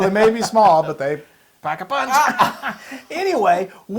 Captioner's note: laugh